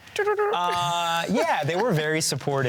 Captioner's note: laughs